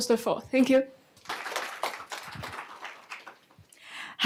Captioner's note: applause